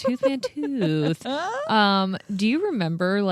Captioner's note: laughing